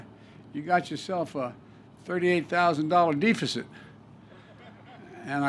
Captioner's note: laughter